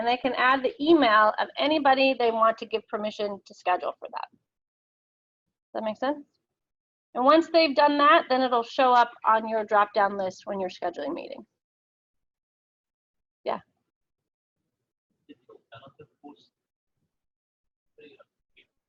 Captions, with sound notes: and they can add the email of anybody they want to give permission to schedule for that. That make sense? And once they've done that, then it'll show up on your drop-down list when you're scheduling meeting. Yeah. (mic garbling)